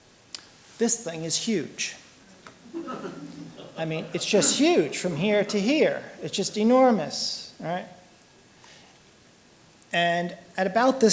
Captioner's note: laughter